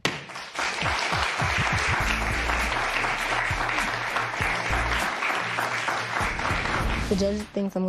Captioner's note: applause